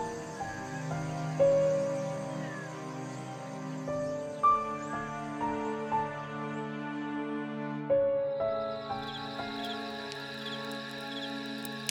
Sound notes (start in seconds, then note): 8.2 crickets Chirping